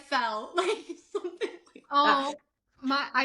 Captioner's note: laughs